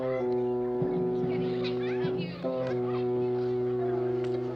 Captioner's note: chattering